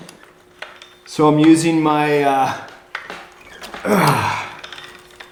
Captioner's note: grunts